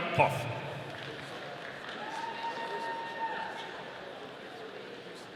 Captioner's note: audience cheering